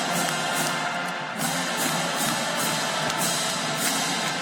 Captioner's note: applause